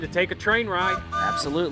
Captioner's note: whistle blows